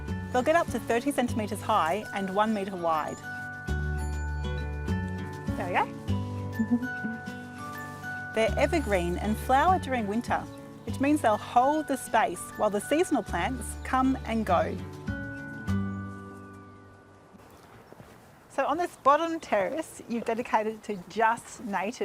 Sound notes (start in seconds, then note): 6.6 laughs